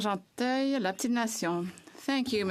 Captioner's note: speaking French